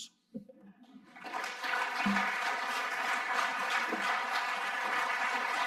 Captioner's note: audience applauding